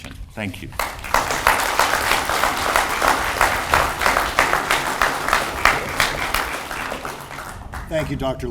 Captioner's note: audience applauds